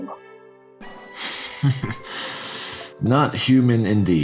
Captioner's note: chuckles